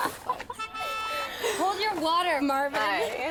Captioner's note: car horn honks